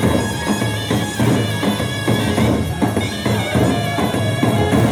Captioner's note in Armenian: ծափահարություն